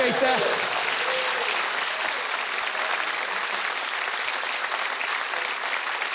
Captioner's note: audience cheering; audience applauding